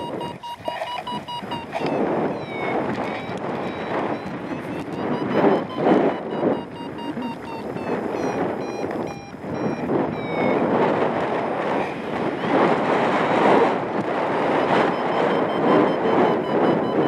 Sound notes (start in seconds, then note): 0.1 fabric scraping; 0.1 wire reeling; 2.8 alarm continues; 2.8 wind whooshing; 4.2 alarm accelerates; 4.2 strong wind gusts; 8.5 alarm slows; 9.3 wind whooshing; 11.9 alarm continues; 11.9 strong wind gusts